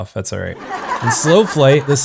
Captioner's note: canned laughter